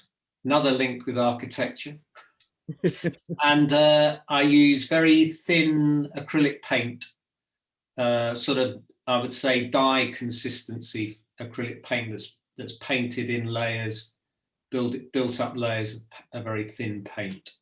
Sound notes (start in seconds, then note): 2.7 laughs